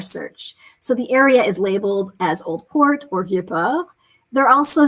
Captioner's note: speaking french